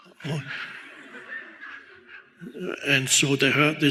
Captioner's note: audience laughs